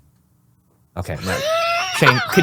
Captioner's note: laughing